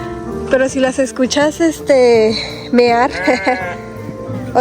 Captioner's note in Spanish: sonido de que hacen las ovejas